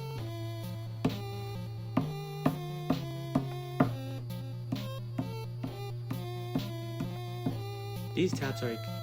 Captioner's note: taps on desk to song